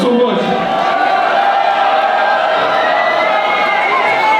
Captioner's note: audience cheering